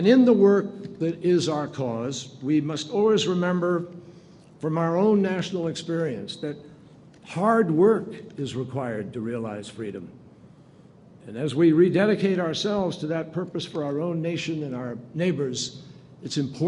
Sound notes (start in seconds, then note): none